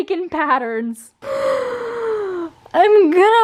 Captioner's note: long inhale